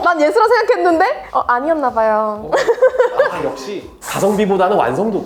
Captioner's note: laughs